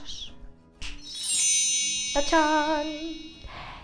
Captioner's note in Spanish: Sonido magia